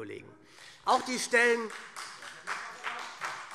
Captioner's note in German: Vereinzelter Beifall SPD